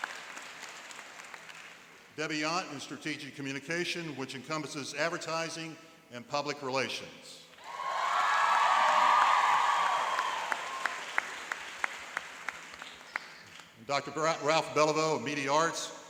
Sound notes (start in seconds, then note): 7.6 cheering and applauding